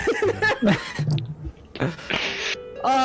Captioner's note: laughter